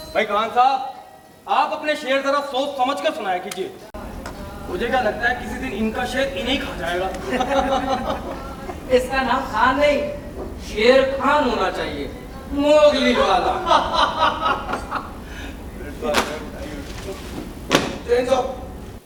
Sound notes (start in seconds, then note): 14.3 chuckles